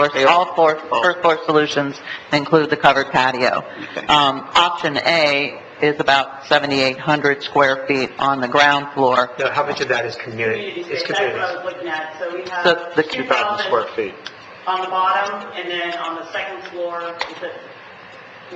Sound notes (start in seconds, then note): 11.7 woman mumbling